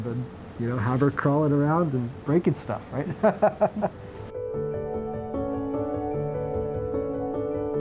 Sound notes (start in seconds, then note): 3.0 laugh; 4.0 happy music